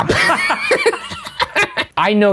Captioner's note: laughing